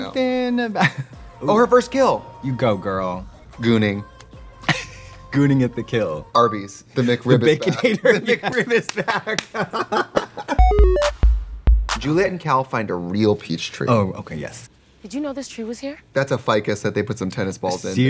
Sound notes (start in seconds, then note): 4.6 Katya laughs; 7.2 both laughing; 8.8 both clapping; 10.6 bright electronic music